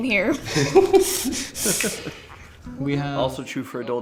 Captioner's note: men chuckling